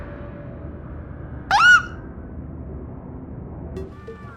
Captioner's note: squeaks